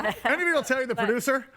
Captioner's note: guests laughing